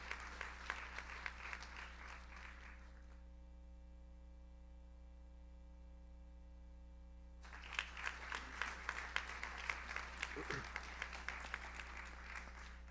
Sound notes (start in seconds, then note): 7.4 audience applauds